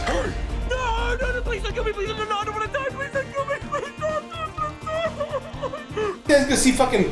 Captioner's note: sobbing